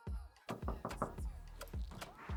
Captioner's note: knock on door